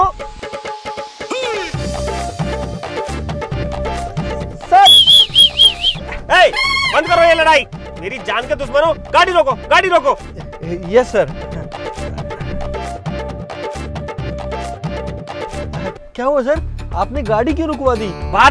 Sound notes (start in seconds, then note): 0.3 quarreling; 4.8 whistling